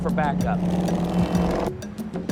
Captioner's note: horn honking